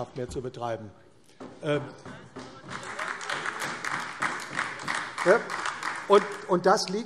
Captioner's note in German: Beifall AfD